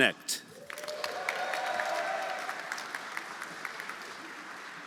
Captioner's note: audience applauding; audience cheering